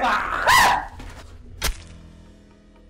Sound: Myles shrieks

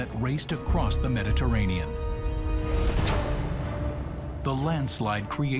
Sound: water crashing

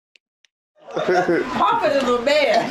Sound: laughs loudly

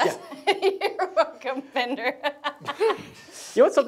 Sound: laughs

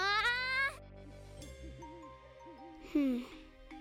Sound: owl hooting

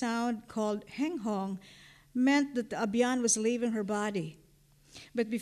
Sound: non-english

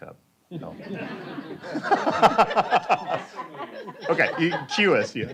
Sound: laughter

